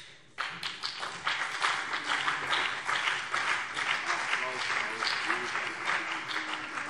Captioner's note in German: Beifall BÜNDNIS 90/DIE GRÜNEN und vereinzelt CDU